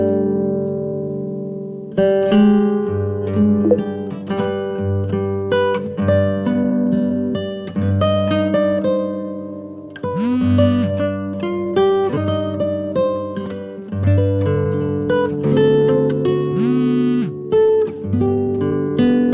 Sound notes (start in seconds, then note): 4.1 phone Vibrating